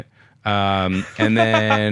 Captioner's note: laughs